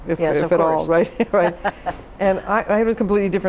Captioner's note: laughs